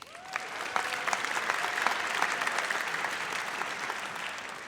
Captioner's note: audience cheers